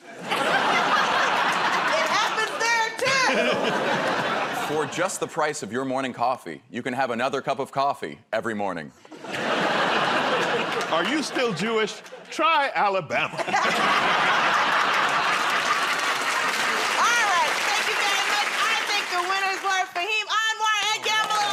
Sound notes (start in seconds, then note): 0.0 laughter; 13.2 laughter